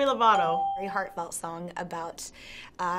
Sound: bell rings; ding

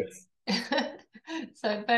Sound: laughs

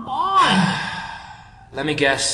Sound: sighs

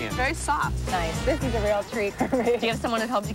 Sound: chuckles

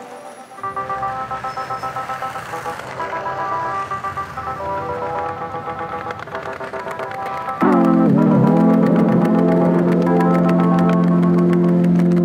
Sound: skateboarding sounds

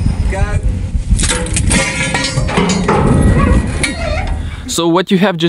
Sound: metallic clanking

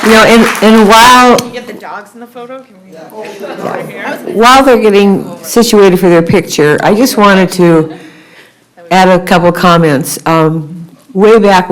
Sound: applause

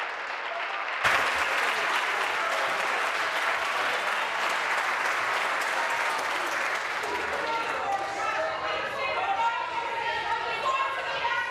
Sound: applause

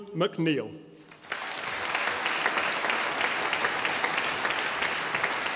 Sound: audience applauding

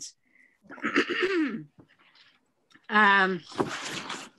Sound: clears throat

